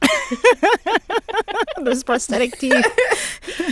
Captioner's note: laughter